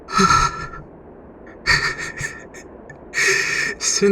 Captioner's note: quietly laughs, relieved